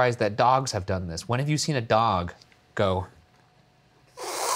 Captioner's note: slurps